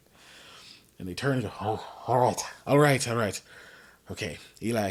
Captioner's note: anxious noise